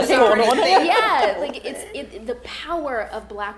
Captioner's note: all laughing